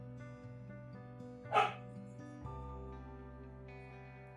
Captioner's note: dog bark